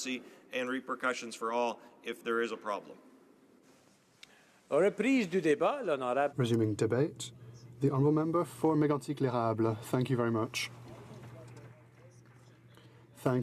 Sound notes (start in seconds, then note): 9.6 speaking French